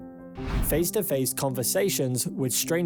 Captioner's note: screen swishes